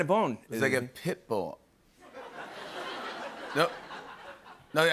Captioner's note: laughter